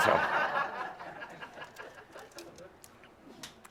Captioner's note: laughter